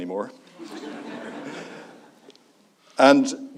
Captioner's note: audience laughs